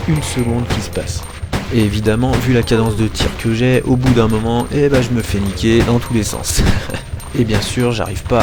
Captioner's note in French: rire